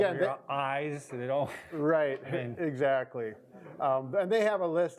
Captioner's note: chuckles